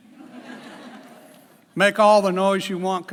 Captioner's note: laughs